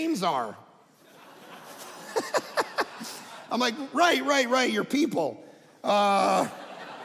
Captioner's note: audience laughing